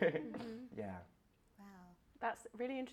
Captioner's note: laughter